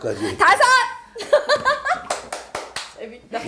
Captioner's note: giggle